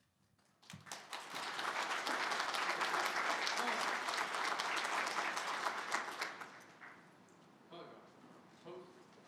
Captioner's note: applause